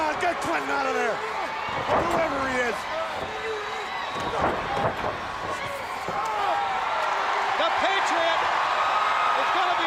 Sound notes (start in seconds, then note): 3.3 crowd cheering